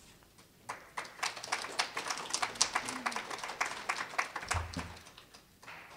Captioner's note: applause